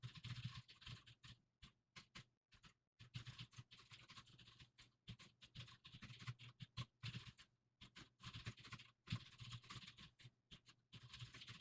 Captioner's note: typing sounds